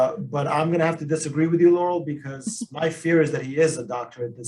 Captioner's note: laughs